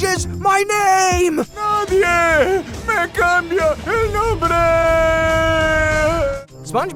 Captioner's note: speaking Spanish